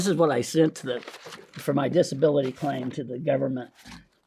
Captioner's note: paper crinkling